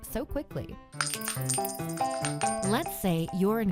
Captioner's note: pennies tinkling